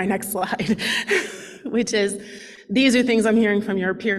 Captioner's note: laughs